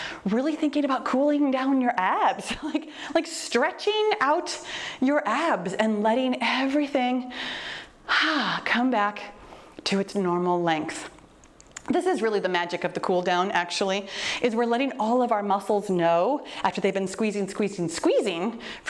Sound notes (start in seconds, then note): 7.4 exhales deeply